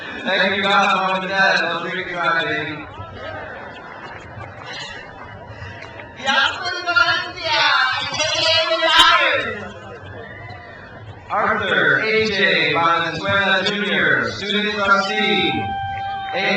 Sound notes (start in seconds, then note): 1.7 speaks in foreign language; 9.8 crowd cheers